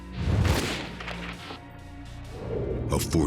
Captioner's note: gunshot